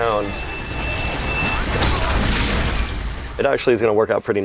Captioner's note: clinking sound